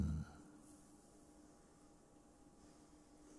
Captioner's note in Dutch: stilte